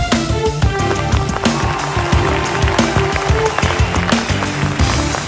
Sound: people Cheering

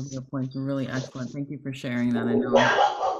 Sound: dog barks

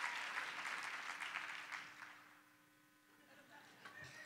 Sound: cheers and applause

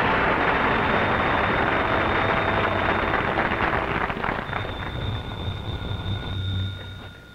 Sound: applause; telephone ringing

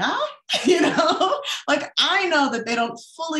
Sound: laughs

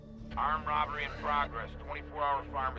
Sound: radio

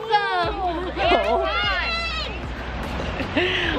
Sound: kids shouting; chuckles

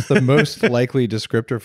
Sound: laughing

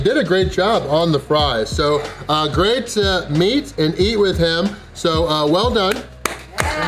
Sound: clapping

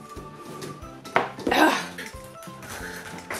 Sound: ball thumps; groans; laughs

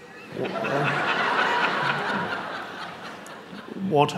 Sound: audience laughing

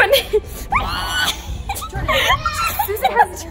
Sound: squeals

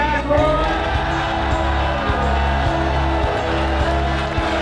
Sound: crowd cheering

